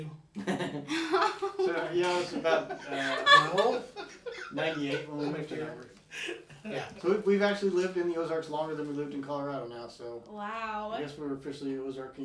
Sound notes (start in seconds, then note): 0.4 all laughing